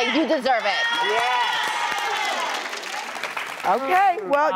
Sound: audience applauding

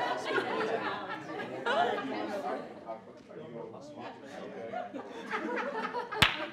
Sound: laughing; speaking faintly

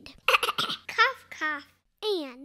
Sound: cough, cough

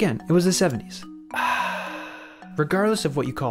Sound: sipping noise & relaxing sigh

